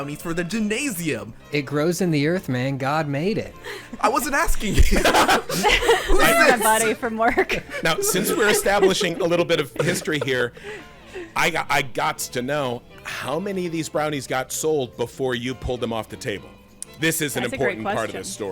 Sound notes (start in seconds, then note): 4.7 everyone laughing